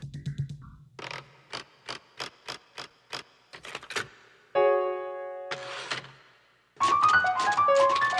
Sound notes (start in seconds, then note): 1.4 typewriter rattling; 4.5 somber piano music